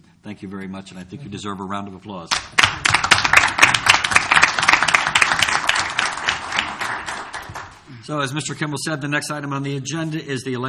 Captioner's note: applause